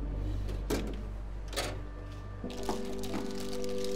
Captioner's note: drawer rattling